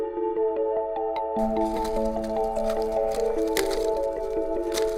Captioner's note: sticks rustling